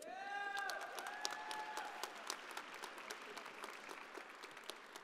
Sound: audience applauding

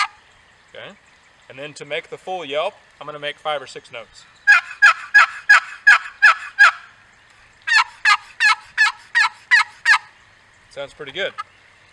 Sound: calls

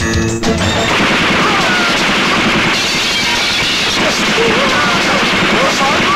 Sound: rapid gunfire; glass shatters

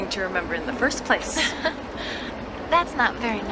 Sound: Meg laughs

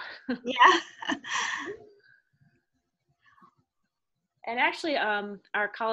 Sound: laughs

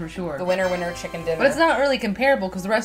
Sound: Windows tada sound

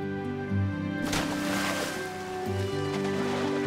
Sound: water splashes; bright inspiring music

